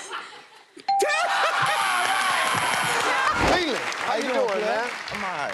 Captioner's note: laughs